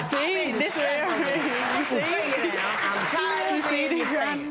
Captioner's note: cheers and applause